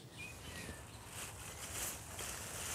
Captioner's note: birds chirping